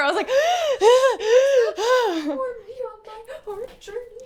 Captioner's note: hyperventilates